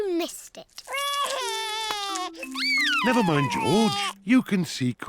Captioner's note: sobs